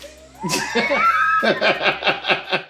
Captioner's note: both laugh